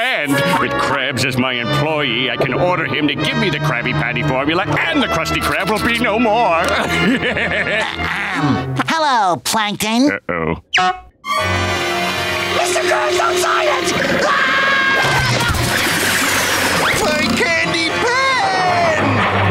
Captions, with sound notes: With Krabs as my employee, I can order him to give me the Krabby Patty Formula and the Krusty Krab will be no more! [laughing] - Hello, Plankton. - Uh oh. Mr. Krabs, don't sign it! [screaming] My candy pen!